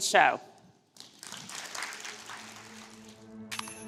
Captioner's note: applause